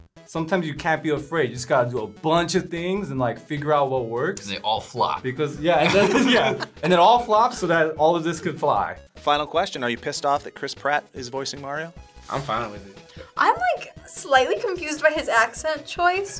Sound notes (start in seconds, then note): 5.8 laughs